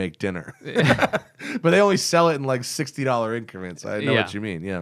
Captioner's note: laughter